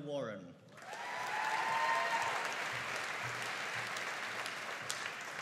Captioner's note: audience cheering and applauding